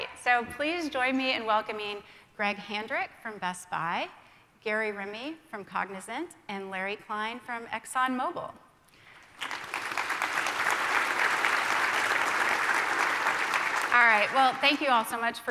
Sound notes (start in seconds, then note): 9.1 applause